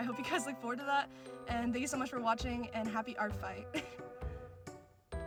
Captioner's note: laughter